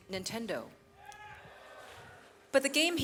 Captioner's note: audience cheers